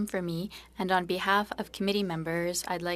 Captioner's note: speaking French